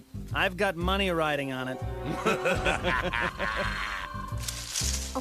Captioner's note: laughter